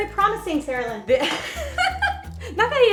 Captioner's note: laughing